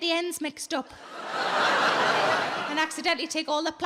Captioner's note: audience laughs